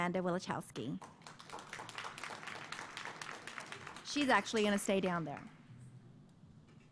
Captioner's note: applause